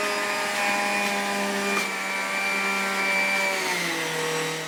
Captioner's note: juicer whirs